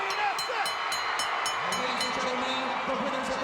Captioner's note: bell rings